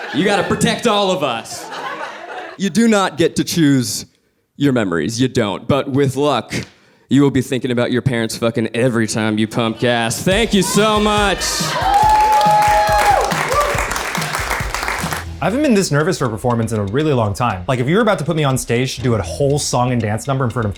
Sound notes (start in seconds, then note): 10.4 audience clapping and cheering